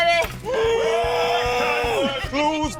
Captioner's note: groans loudly